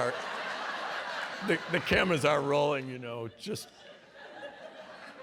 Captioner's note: laughter